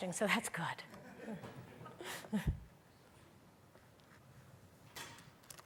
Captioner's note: audience laughing